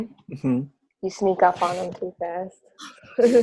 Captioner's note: laughs